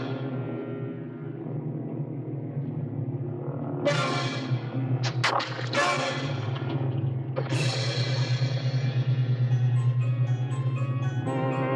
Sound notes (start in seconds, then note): 4.5 ax thudding